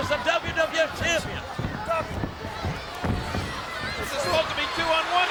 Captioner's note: crowd yelling